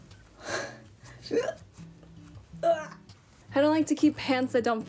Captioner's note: gasping